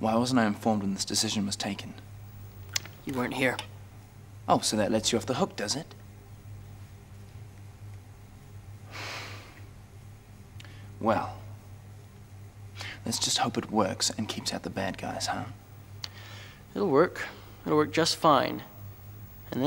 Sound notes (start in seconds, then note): 8.9 sighs